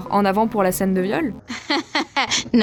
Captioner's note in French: rire